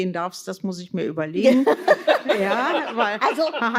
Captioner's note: laughter